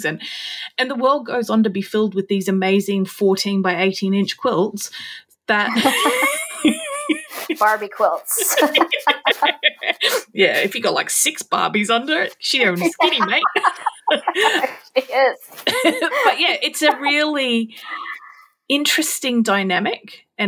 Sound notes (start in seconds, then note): 5.7 both laughing